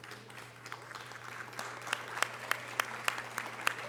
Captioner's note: audience applause